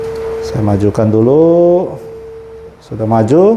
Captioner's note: printer machine noise